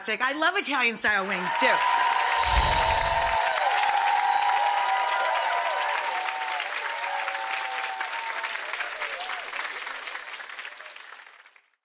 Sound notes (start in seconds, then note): 2.3 audience applauding